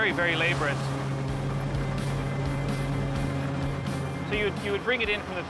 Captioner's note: thresher whirring